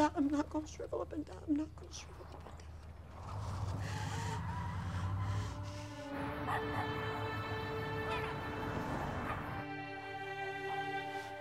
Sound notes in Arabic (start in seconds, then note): 3.0 اصرير الاطارات; 6.0 موسيقى درامية ناعمة; 6.0 نباح الكلب